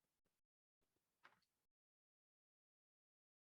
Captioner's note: none